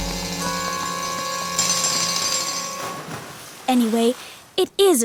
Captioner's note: digging